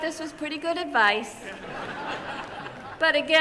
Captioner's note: laughter